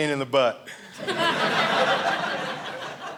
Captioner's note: audience laughing